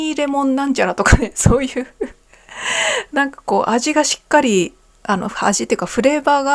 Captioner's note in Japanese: 笑い